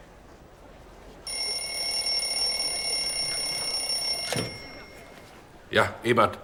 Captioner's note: telephone rings